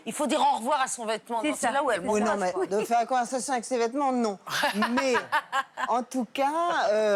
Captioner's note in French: rires